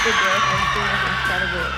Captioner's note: audience cheering drowns out speaking; cheering drowns out speaking